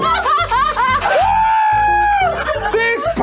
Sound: everyone laughing

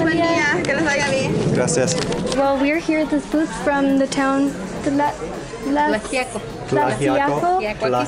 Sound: struggling to pronounce Tlaxiaco

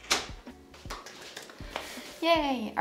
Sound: clapping

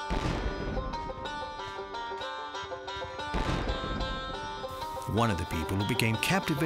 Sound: explosions

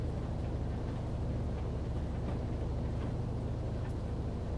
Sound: washing machine whirls

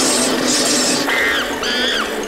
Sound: chattering; cheering

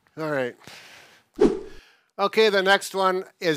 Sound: whooshing sound

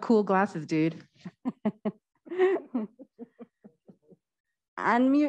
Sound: laughing

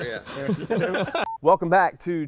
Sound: laughing

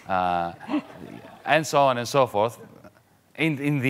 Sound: audience laughing mildly

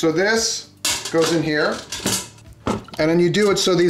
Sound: metal clanking

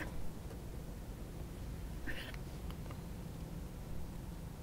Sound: soft crying

